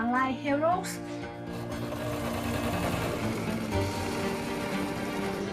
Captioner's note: sewing machines whirring